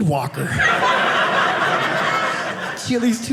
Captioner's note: audience laughing